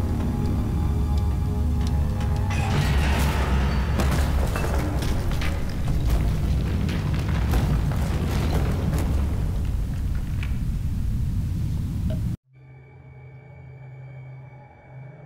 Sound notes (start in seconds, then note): 2.5 elevator scraping; 4.2 rocks falling